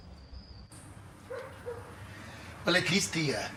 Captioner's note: dogs barking